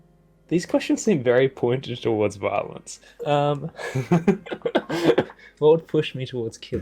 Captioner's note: giggle